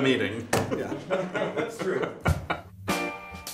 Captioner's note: laughter